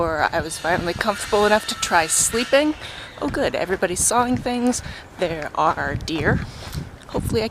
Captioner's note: loud saw noises